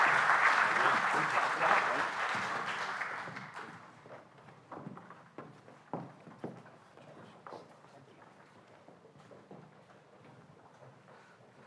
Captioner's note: applause